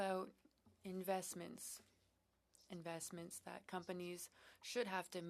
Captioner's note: speaking French